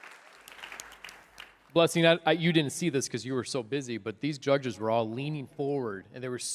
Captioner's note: applause